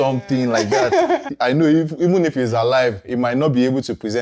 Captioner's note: laughs